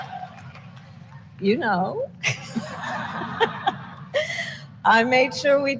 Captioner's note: laughter